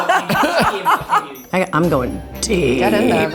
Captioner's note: everyone laughs